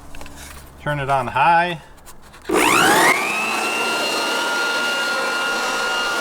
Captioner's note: motor whining